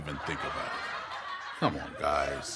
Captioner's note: audience laughs